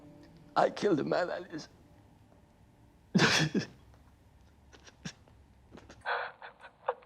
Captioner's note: weeps